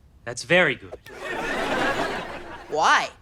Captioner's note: audience laughter